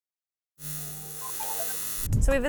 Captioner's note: electricity buzzing